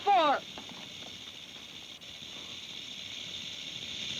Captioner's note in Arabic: خشخشة الثعبان